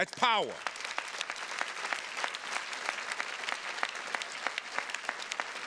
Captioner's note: attendees clapping